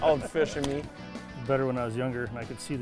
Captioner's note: laughter